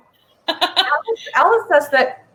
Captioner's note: laughs